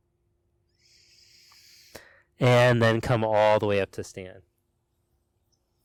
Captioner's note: inhales sharply